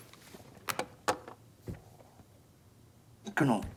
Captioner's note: door open close